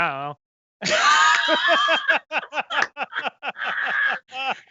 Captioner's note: laughing